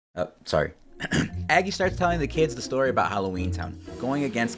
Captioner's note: ahem